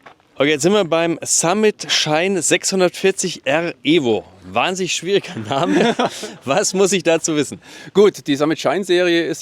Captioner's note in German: gelächter